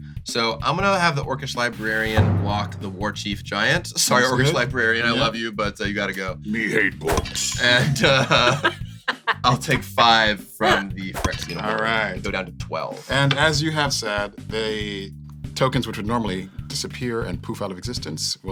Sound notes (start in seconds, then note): 6.7 Warchief Giant voice; 7.0 laughing; 7.0 laughs; 11.4 laughs